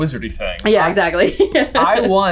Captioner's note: laughing